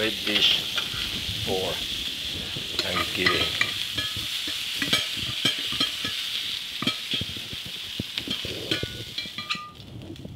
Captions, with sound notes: Great dish for Thanksgiving. (sizzling) (metal clanking)